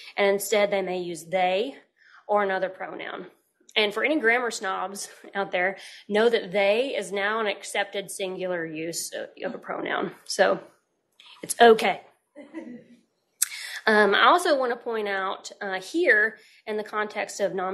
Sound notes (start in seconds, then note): 12.4 laughter